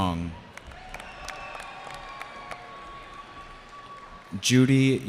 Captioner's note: cheering